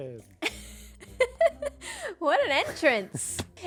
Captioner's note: laughs